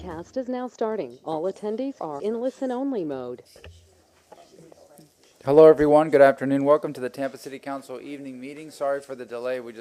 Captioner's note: sounding gavel